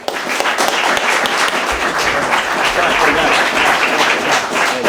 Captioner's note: audience applauds